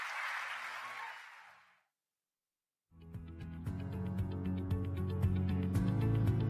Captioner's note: applause